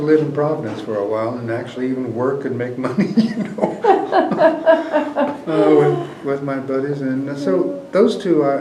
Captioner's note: laughter